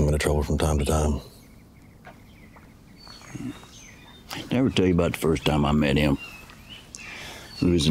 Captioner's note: none